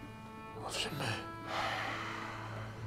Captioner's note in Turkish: Nefes sesi